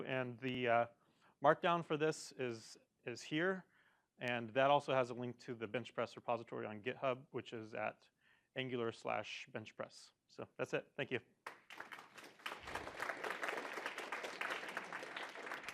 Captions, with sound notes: And the mark down for this is here. And that also has a link to the Benchpress repository on GitHub, which is at angular/benchpress. So that's it. Thank you. [APPLAUSE]